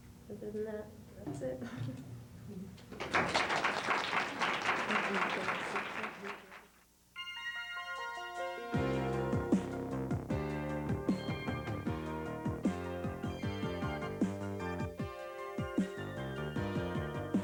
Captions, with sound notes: Other than that, that's it. [LAUGHS] [APPLAUSE]